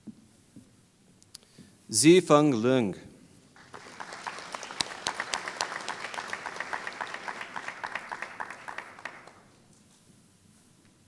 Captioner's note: applause